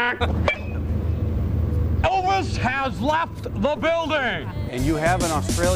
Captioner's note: laughter